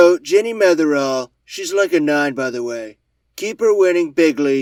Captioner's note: David Attenborough impression